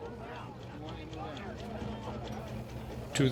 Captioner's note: crew chattering